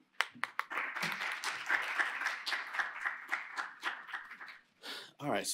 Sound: applause

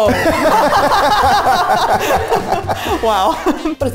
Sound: all laughing

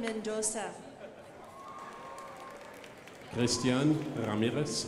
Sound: crowd applauding

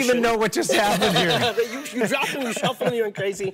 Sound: laughs

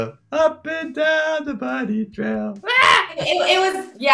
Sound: screams

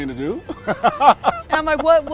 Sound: Anthony laughs

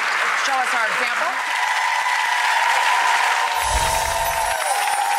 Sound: clapping and cheering

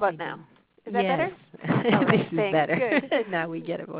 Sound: laughing

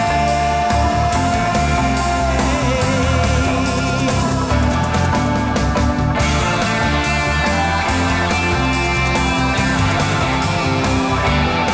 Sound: ahhhhhh

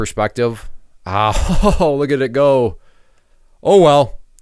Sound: chuckles

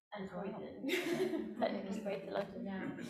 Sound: laughing

